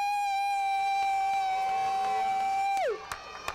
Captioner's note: applause